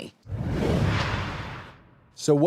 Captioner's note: logo whooshes